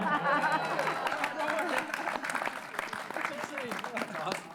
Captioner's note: laughter; applause